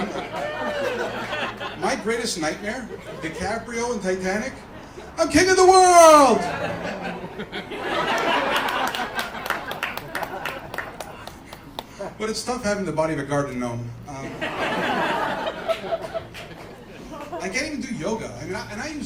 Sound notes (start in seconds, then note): 7.7 laughter and clapping; 14.2 laughter